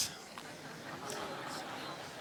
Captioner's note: laughter